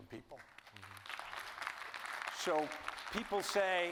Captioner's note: audience applauding